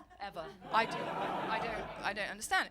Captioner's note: audience laugh